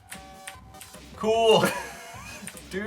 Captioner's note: laughing